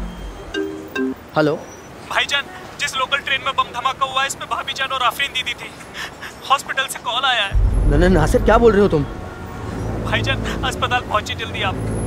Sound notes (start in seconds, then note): 6.4 sobbing